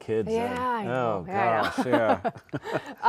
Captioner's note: laughs; chuckling